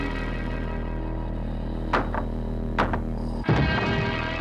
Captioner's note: pounding on wall